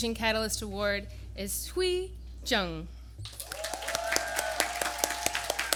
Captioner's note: applause